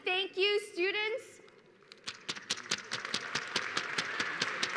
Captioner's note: applause